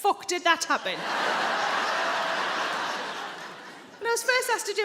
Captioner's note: audience laughing